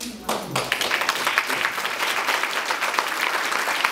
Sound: applause

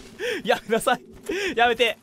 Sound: gasp

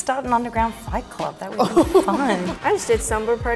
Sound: Mary laughing

